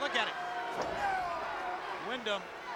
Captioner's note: Muta screams; blow thuds